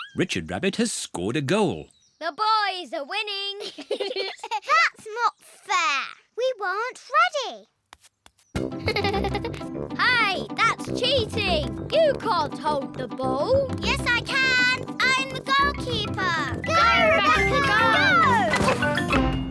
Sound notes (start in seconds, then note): 3.6 both laugh; 8.8 giggles